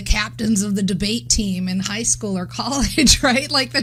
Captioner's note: laughs